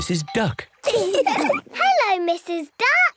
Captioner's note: all laugh